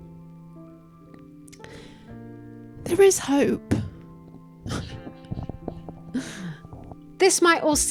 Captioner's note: laugh